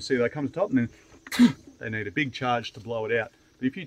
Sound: snorts

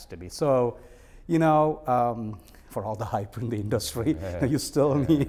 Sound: laughing

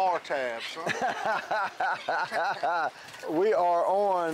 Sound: laughs loudly

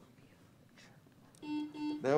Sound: team whispering; buzzer sounds

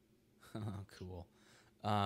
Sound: laughs

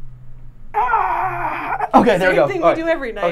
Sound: grunting

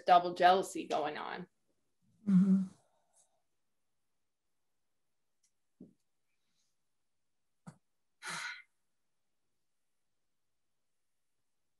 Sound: exhale; quiet

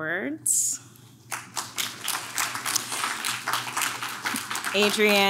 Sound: audience claps

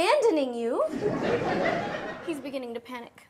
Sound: audience laughs

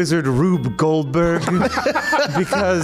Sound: laughs

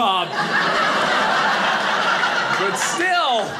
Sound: audience laughing

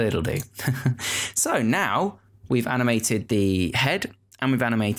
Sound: chuckling

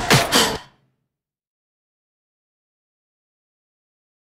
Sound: blows air

